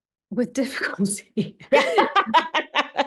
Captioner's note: laughing